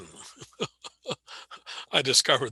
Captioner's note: laughing